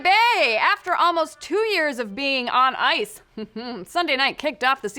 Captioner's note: chuckle